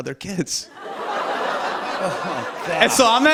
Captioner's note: laughter